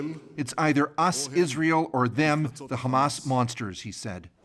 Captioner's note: speaking alternate language